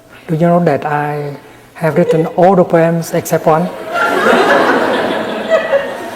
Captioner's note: laughter in the audience